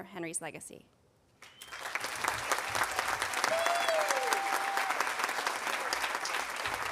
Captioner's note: audience applauding and cheering